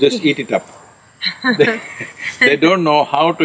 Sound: both laugh

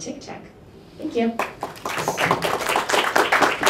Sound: applause

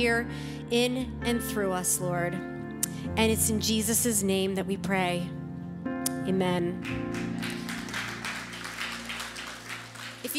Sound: audience applauding

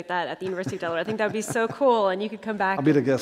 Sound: laughter

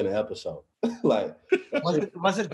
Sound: chuckles

